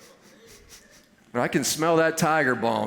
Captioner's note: sniffing